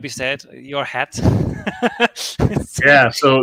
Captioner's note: laughs